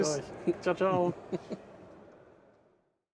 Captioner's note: chuckles